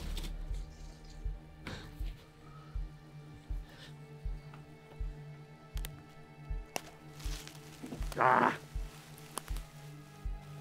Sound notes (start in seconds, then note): 6.6 twigs snapping